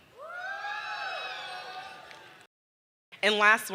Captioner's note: audience cheering